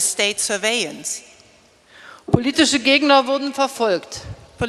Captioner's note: speaking in German